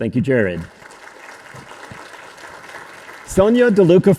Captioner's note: audience applauding